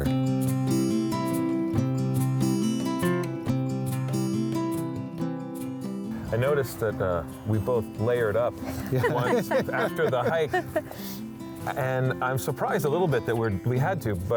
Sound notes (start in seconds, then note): 0.1 gentle music; 8.6 all laughing